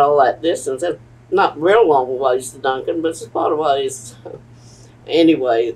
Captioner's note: laughs